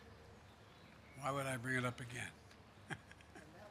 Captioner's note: laughs